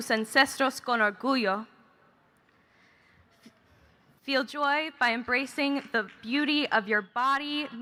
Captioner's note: speaking Spanish